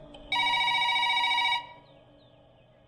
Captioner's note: Phone rings